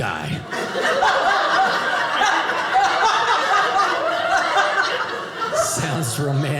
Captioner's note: audience laughing